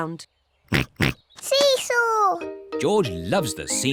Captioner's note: oinks